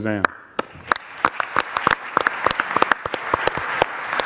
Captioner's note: audience applauds